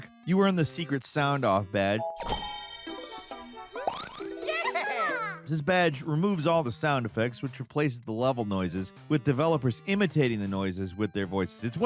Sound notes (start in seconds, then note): 1.9 intriguing whimsical music; 2.2 chest chiming